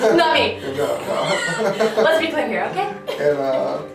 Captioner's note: laughing